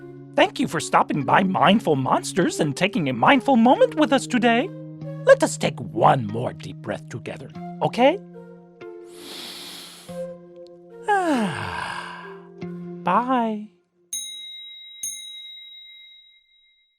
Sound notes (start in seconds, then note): 9.0 exhales; 9.0 inhales